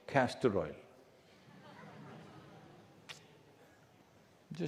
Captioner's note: few laugh